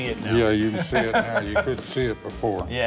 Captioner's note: laughing